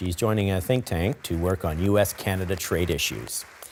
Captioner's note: applause